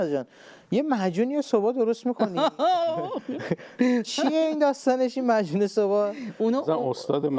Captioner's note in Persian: خنده